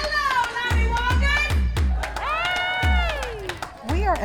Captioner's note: applause